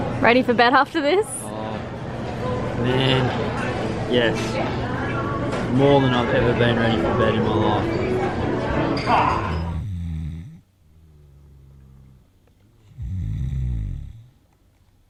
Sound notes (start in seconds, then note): 12.8 snoring